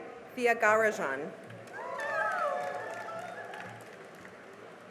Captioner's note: cheering and applause